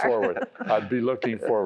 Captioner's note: laughter